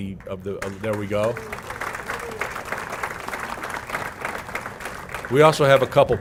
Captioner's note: applause